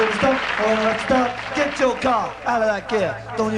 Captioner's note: audience cheering